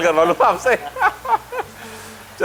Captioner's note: laughter